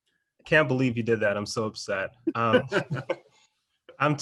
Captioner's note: laughs